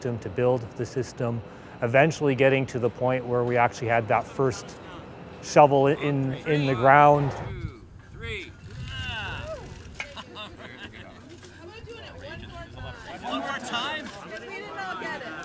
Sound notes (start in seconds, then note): 8.9 crowd cheering